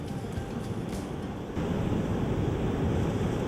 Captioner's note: ocean sounds